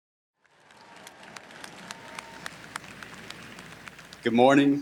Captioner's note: audience applauding